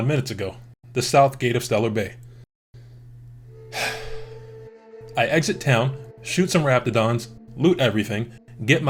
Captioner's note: sigh